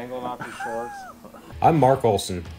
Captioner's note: laughs